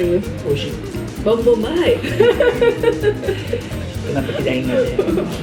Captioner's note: laughs